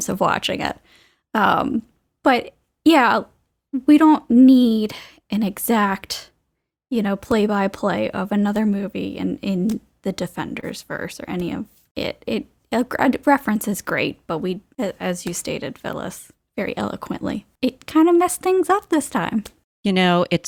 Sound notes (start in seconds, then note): none